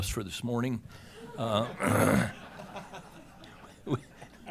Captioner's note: laughter